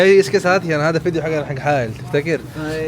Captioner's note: Arabic